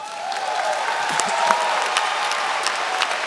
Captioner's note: applause